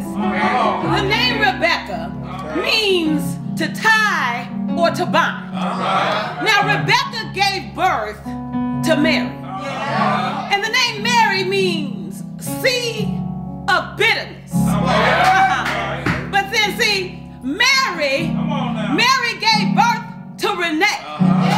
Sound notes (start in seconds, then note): 0.2 crowd; 5.6 crowd; 14.6 congregation cheers